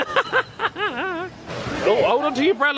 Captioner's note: laughs